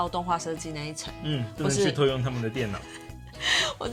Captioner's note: haha